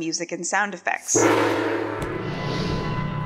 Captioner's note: gong sound